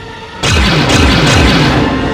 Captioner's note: shots fired